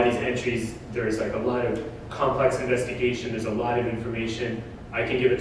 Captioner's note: none